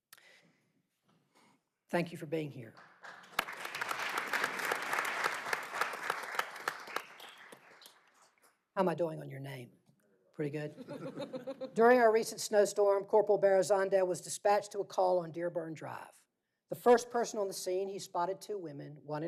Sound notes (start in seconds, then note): 7.0 applause